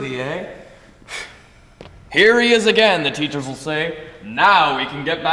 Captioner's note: scoffs